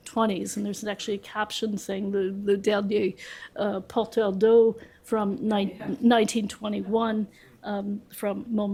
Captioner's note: french